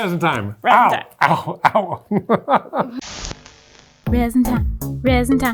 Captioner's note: laughing